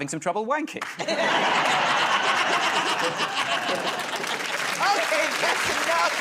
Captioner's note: laughter